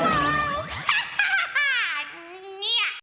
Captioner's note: laughs